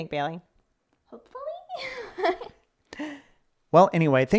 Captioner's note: giggles